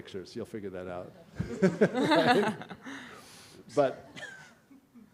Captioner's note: laughter